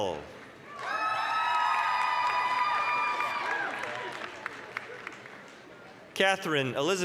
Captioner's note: applause, cheering